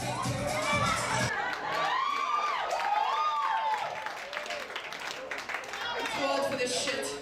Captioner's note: audience clapping and cheering